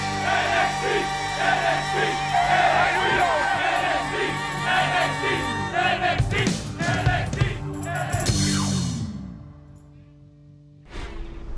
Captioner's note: fans chanting